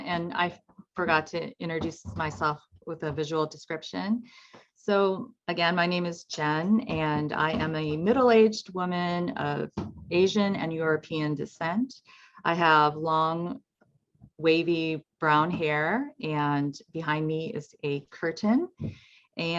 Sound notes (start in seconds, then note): 6.8 footsteps plodding